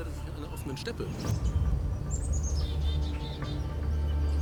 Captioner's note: birds chirping; intense music